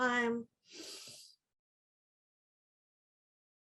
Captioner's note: exhales